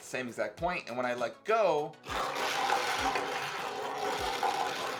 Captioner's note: balls rattle